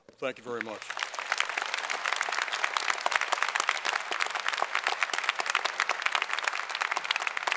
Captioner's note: applause